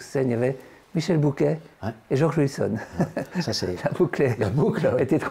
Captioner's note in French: rire